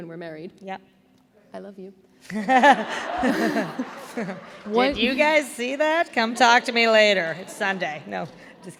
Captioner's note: laughter